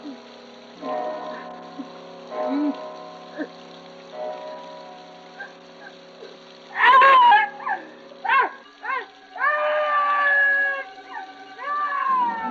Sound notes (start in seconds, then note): 6.7 screams; 9.3 Anne screaming